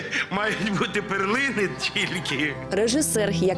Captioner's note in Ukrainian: сміється